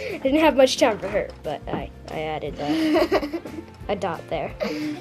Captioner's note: giggles